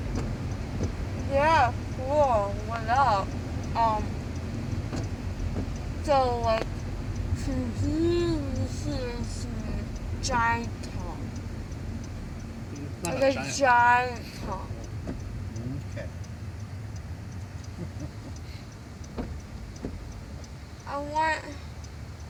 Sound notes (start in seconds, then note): 17.7 giggle